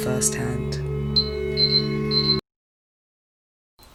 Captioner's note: beeping